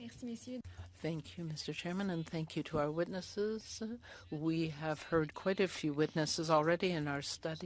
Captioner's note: speaking French